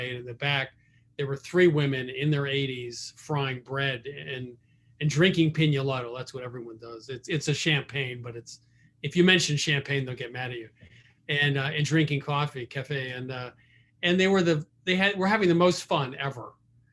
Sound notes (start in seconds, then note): none